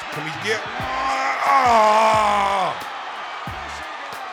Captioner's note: groaning